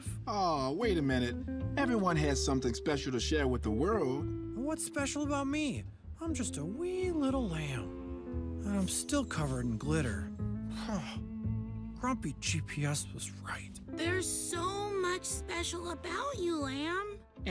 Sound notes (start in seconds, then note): 10.7 sighs